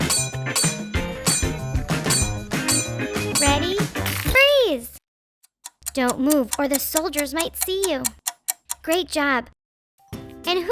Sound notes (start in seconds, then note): 1.2 sword clanking; 5.4 clock ticking